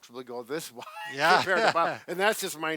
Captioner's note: laughter